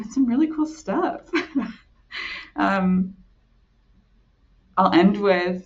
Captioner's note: chuckling